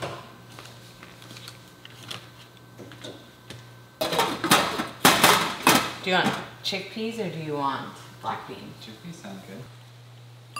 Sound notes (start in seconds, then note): 4.3 lid clanging